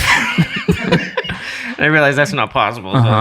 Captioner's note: laughing